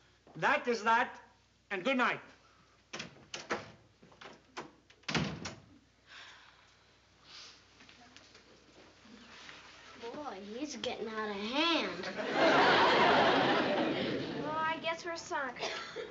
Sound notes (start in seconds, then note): 5.0 door shutting; 12.0 laughter